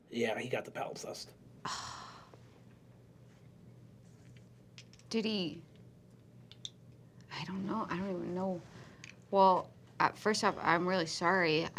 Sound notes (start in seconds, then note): 0.3 nasally; 1.6 sighs